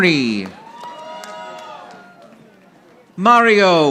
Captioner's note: audience applauding